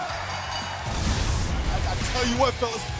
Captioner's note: bell ringing